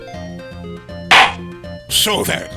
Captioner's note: gavel slams!